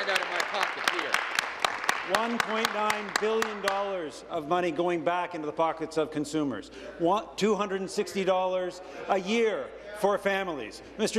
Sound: applause

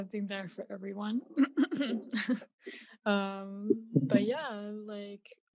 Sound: clears throat

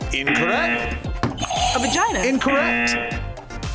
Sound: buzzer; buzzer rings; buzzer

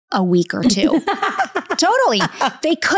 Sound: laughs

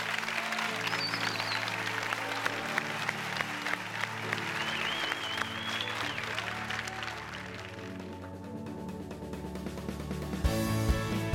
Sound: cheers and applause

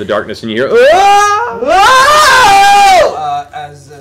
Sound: screams

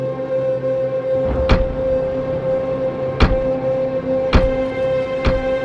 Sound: door Slams

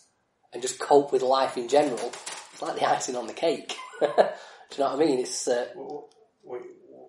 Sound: laughs

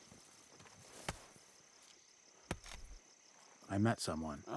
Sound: sickle tapping

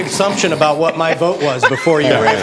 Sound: laughter

